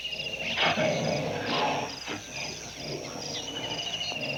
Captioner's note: growls